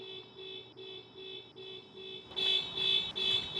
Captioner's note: car alarm